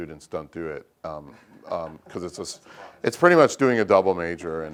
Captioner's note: laugh